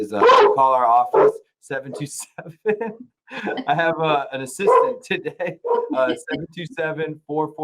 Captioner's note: dog barking